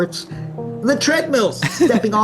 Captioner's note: chuckles